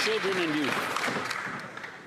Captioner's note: applause